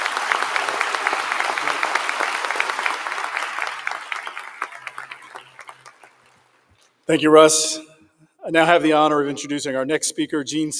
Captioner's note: applause